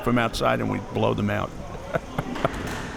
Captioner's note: chuckles